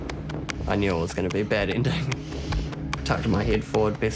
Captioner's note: chuckles